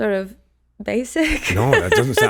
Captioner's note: laughs